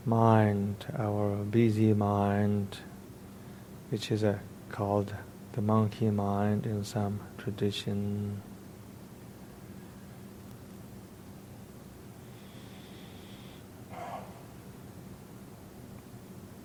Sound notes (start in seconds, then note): 12.3 inhaling